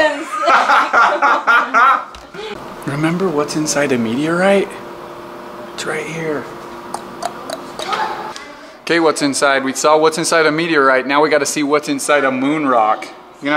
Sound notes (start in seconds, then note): 0.1 laughing; 6.9 clicks tongue